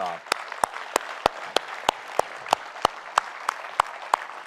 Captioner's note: audience applauding